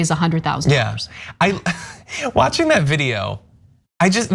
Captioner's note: laugh